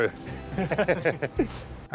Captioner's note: both laugh